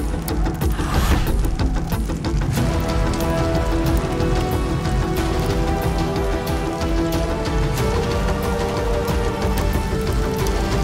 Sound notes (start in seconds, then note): 4.1 fire crackling